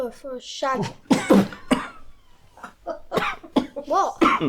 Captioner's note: coughing